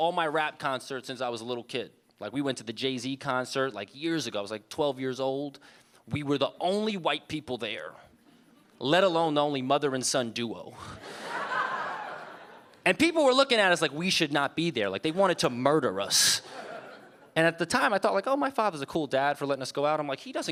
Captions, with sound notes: She brought me to all my rap concerts since I was a little kid, like we went to the Jay-Z concert like years ago I was like 12 years old. We were the only white people there. Let alone the only mother and son duo. (audience laughing) And people were looking at us like we should not be there. Like they wanted to murder us. And at the time I thought like, oh my father's a cool dad for letting us go out.